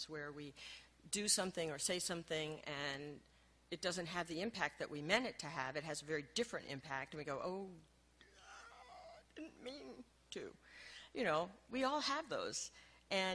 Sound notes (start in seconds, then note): 8.2 gasps